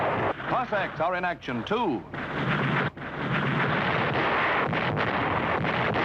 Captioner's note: artillery firing